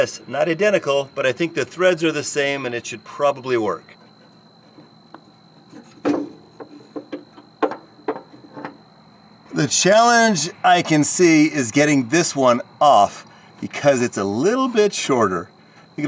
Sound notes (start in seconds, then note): 3.4 metal banging